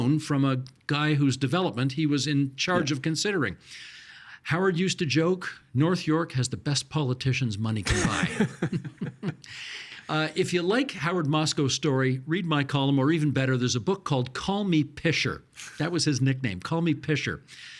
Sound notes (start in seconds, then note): 7.8 chuckling